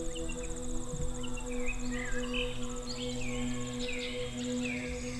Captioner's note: birds continue chirping